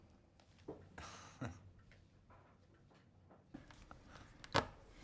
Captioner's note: Rob chuckles